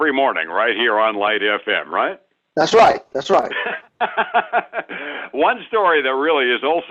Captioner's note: laughs